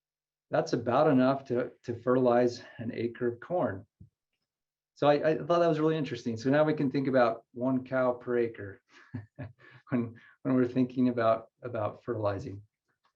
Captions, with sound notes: That's about enough to fertilize an acre of corn. So I thought that was really interesting. So now we can think about one cow per acre. [chuckles] When- when we're thinking about fertilizing.